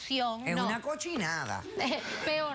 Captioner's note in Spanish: Risas